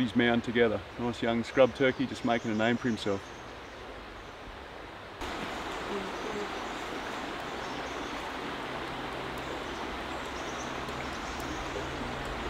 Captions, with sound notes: (birds chirp) put his mound together, a nice, young scrub turkey, just makin' a name for himself. (birds chirp) (water gurgles)